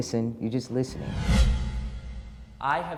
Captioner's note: air whooshing